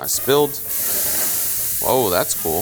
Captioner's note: sauce sizzling